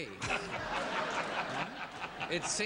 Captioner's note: audience laughs